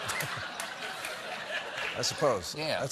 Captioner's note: laughter